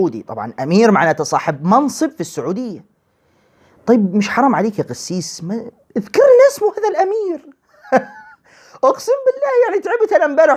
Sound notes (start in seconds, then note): 7.7 laughter